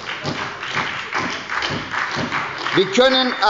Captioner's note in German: Beifall bei der SPD